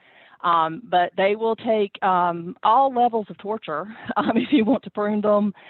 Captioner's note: chuckles